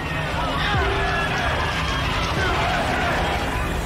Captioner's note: crowd yelling